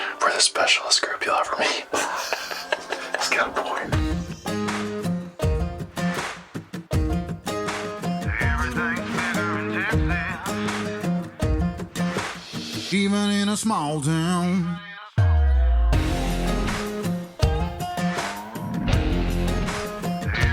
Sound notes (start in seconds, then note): 1.6 laughs; 4.4 rustic country music; 15.2 country music continues